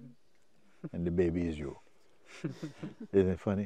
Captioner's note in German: Lachen